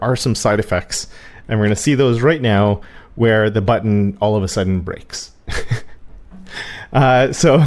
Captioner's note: laugh